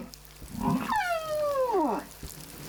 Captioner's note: grunting, squeaking